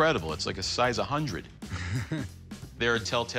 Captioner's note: chuckles